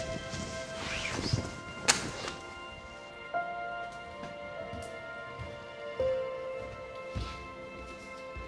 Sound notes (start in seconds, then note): 6.5 feet tapping